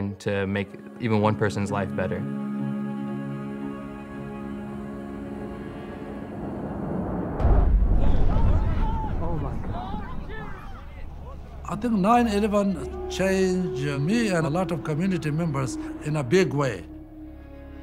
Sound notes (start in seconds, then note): 7.4 plane bangs; 7.8 crowd